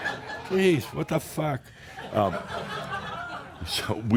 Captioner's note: laughter; more chuckles